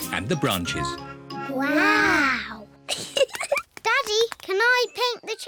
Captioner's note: both giggle